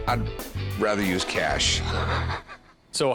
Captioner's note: laughs